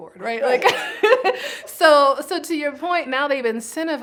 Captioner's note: laughs